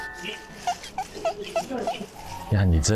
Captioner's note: rubbing